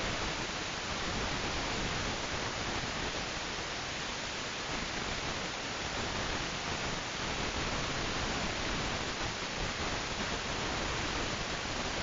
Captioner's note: quiet static